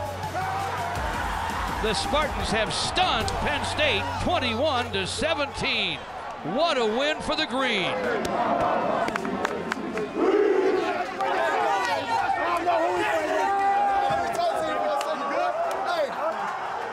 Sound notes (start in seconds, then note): 0.1 football players cheering; 8.6 men cheering